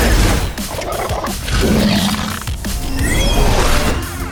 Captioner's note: 2Bells growling